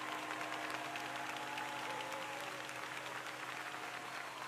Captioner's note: crowd applauding